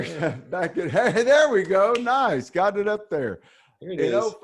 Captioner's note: chuckles